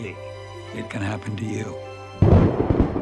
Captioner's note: thunder